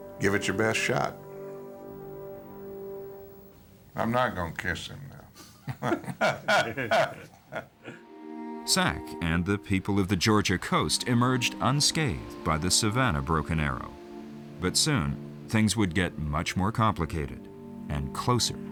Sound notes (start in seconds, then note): 5.5 laughter